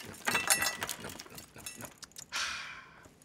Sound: crumbs scattering; Cookie Monster munching furiously; sighs

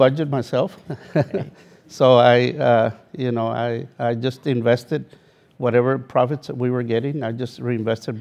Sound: laugh

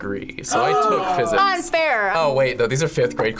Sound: gasps

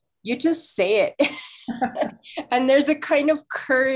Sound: both laughing

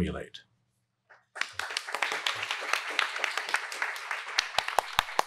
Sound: audience applauds

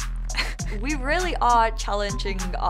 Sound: laughing

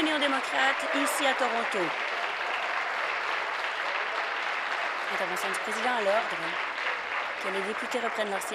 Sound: applause

